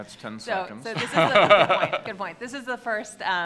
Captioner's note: laughing